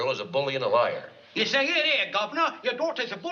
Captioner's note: fakes english accent